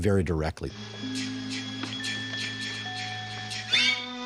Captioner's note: ethereal noise echoing